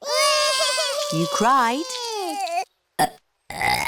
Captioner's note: both bawling; both burping